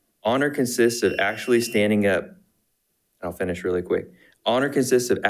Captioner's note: buzzer beeping